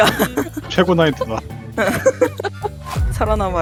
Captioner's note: laugh